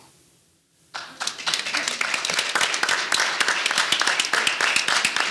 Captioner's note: audience applauding